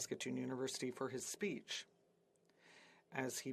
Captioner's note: speaking French